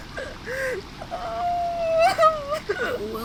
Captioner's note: crying